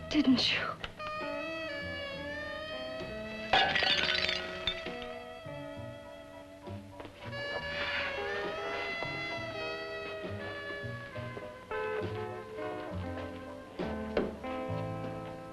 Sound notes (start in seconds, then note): 3.5 glass shatters; 5.2 ominous jazz music